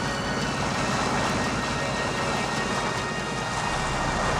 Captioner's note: water splashing